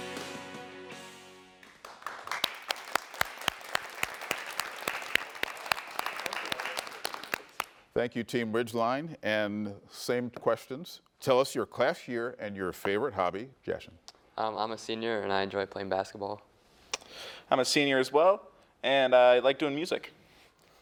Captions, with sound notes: (attendees clapping) - Thank you team Ridgeline. And same questions, tell us your class year and your favorite hobby. Jashan. - I'm a senior, and I enjoy playing basketball. - I'm a senior as well, and I like doing music.